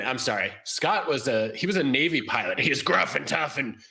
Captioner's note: gruff voice